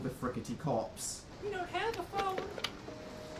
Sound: in very high pitched accent

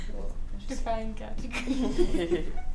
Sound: chatter; laughter

